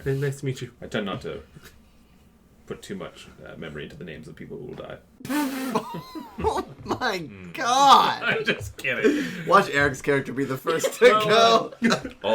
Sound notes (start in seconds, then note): 5.3 cracks up; 10.6 laughter